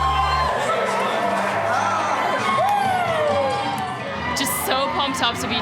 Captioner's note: cheering